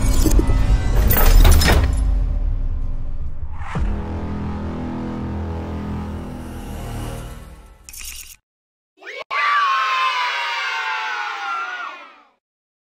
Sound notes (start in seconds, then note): 9.0 children Yelling Yay